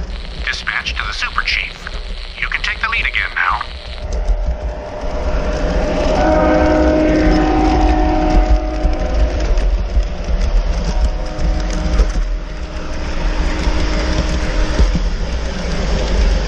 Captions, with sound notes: (Message on the radio) Dispatch to the Super Chief. You can take the lead again now. (train horn)